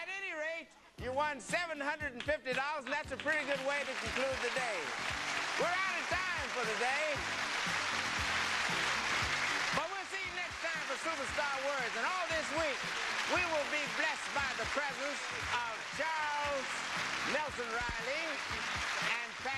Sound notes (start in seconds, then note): 8.7 applause